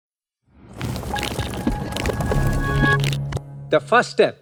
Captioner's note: transition sound effect